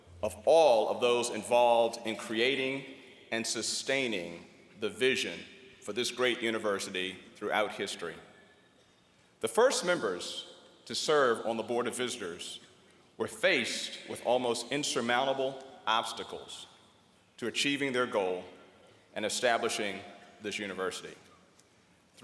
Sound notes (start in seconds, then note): none